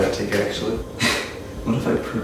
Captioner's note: laugh